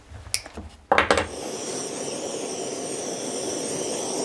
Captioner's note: hiss